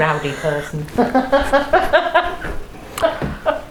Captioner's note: laughs